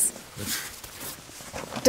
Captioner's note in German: Er seufzt